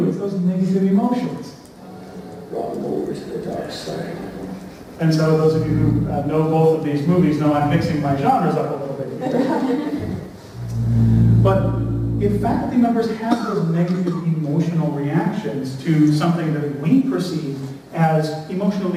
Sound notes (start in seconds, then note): 9.1 laughter